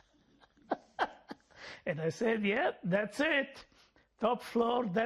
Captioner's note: laughing